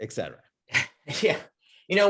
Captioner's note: laughter